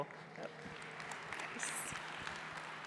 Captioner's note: applause